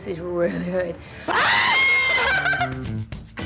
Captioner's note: screams